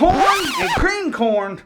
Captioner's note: record needle scratching